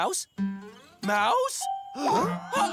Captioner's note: gasp